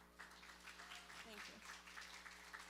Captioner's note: applause